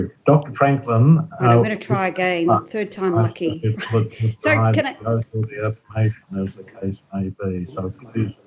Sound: audio distorts

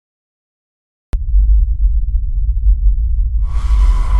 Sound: rumbling starts again; screeching

